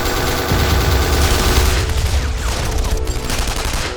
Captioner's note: explosion booms